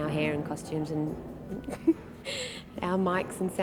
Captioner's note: chuckles